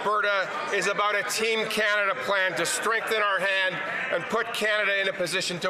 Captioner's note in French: voix de l'interprète